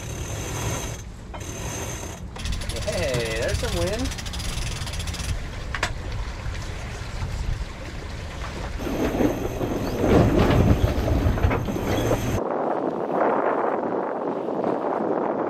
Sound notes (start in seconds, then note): 1.3 mechanism whirring; 8.8 ropes grinding; 12.6 wind blowing